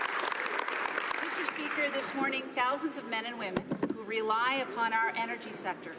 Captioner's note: some Applause